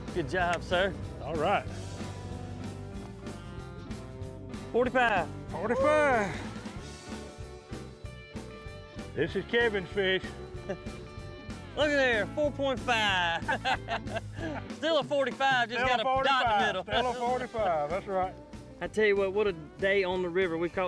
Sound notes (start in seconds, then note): 12.8 laughs